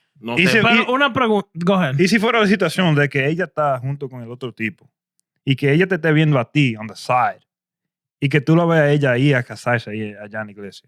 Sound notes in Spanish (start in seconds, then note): 8.4 Hablando en idioma extranjero